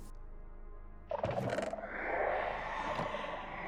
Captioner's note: shrieker noise